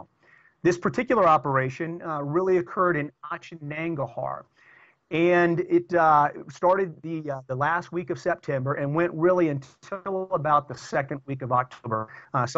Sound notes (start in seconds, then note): 3.2 audio corruption